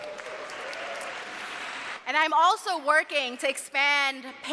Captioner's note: cheers and applause